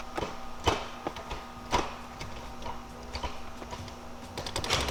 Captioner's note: car gear clutching